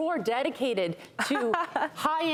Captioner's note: laughing